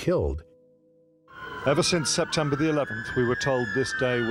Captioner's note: siren blaring